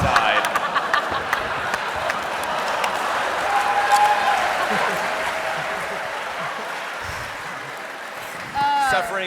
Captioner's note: laughter